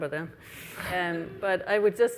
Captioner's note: laughs